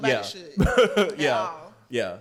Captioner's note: laughs